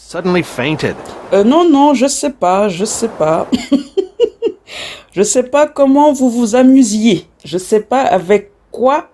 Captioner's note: laughs